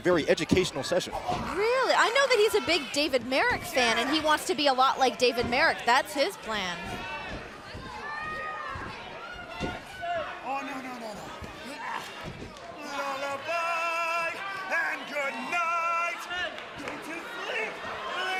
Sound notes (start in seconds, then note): 9.8 crowd chatter